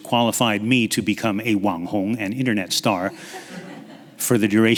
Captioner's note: speaks in foreign language